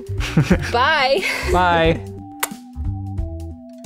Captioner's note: lols; kiss